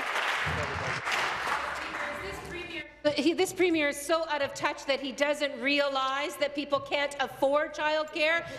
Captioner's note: applause